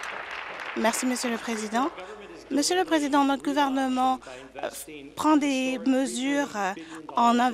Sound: applause

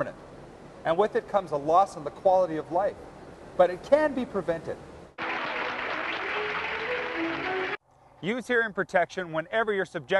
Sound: applause

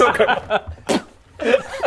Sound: pffp

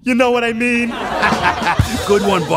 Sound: audience laughing

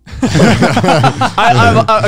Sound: all chuckling

